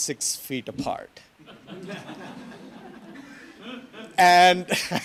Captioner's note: audience laughs